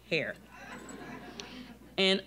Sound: audience laughing

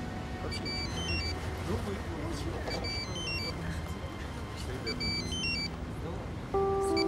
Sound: phone rings

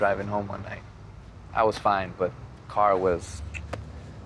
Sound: clicks tongue

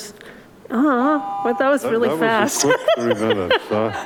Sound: laughs

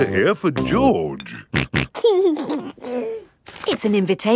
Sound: snorting and giggling

